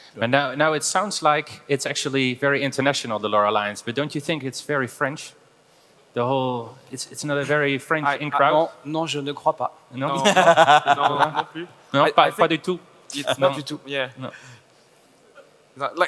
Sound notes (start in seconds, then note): 8.9 speaking foreign language; 10.1 panelists laugh; 11.9 speaking foreign language